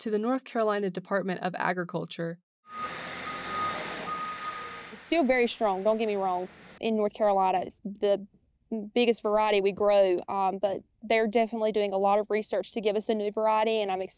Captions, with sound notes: to the North Carolina Department of Agriculture. [machine whirring] [vehicle alarm beeping] - It's still very strong, don't get me wrong. In North Carolina, it's the biggest variety we grow, but they're definitely doing a lot of research to give us a new variety,